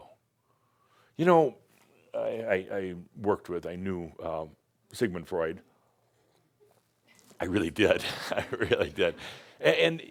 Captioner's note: Adamus chuckles